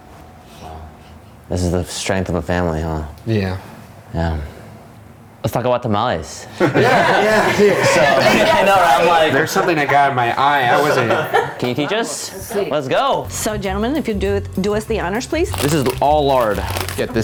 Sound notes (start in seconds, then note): 6.6 laughing loudly